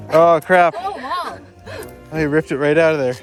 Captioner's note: chuckles